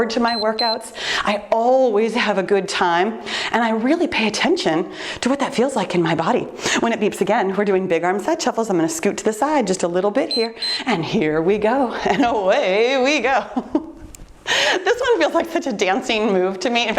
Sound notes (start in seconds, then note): 0.2 timer beeps; 10.2 timer beeps; 13.3 laughs